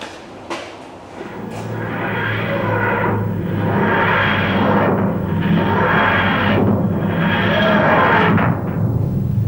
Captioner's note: TARDIS materializes